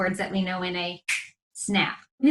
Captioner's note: finger snaps